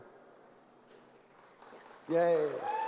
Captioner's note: applause